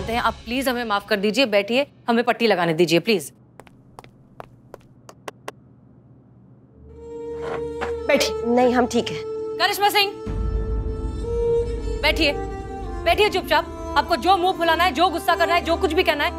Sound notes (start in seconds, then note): 3.5 footsteps; 6.6 sentimental music